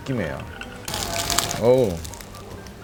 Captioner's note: Crunch